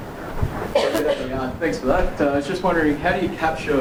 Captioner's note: voiceover